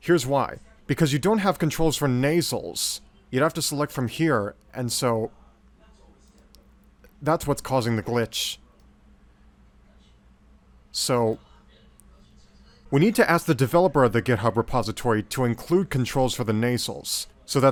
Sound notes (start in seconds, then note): none